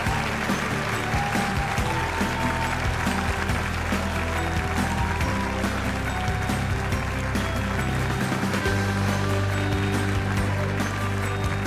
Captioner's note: cheers and applause